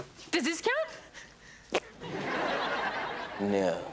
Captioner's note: armpit farts; audience laughs